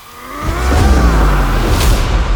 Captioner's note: screams